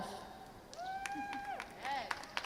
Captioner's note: crowd cheers